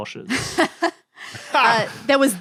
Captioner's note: blurt laugh